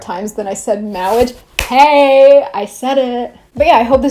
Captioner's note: claps